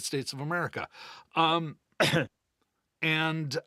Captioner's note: coughing